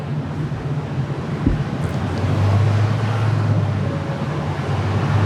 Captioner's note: car engine revving